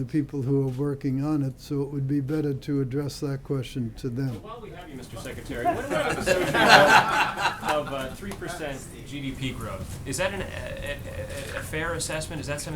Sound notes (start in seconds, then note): 5.0 laughter